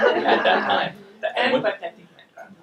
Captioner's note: audience laughing